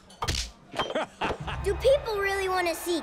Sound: laughing

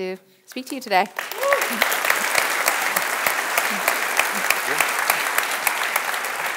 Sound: audience applauds and cheers

